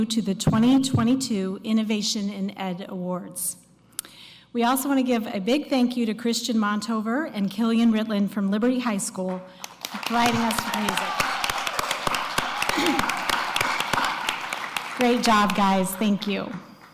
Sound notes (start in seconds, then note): 9.2 applause